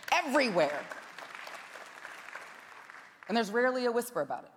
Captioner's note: scattered applause